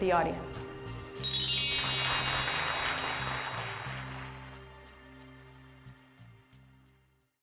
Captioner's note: chiming bells; applause